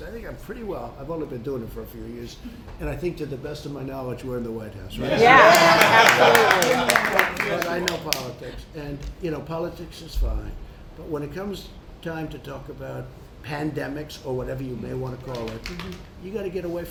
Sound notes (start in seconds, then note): 5.0 applause